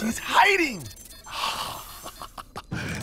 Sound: chuckles

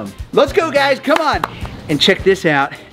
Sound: claps

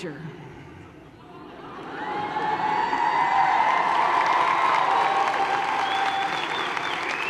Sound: laughter and applause

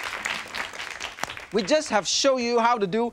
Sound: hands tap

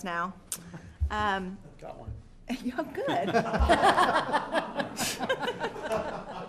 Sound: laughter

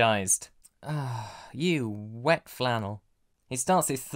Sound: disgruntled sigh

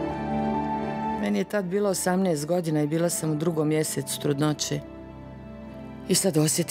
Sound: woman speaking in foreign language

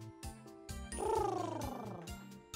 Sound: lip rolls

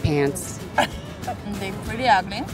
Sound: laughs

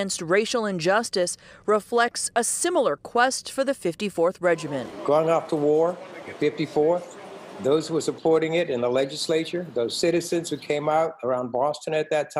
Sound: chanting

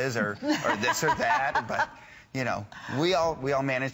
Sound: laughter

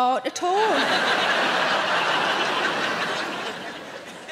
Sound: audience laughing

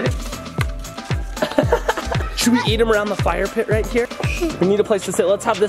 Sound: laughing

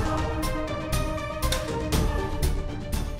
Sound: door closing

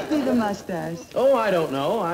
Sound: crowd laughing

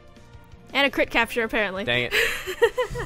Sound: laughs

